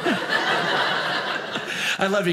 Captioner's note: audience laughing